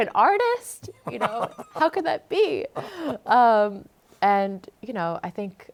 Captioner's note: laughs